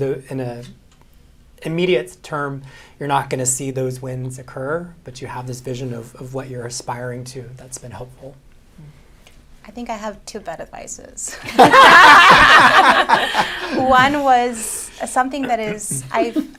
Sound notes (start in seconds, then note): 11.3 laughter